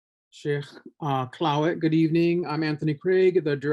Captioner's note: foreign language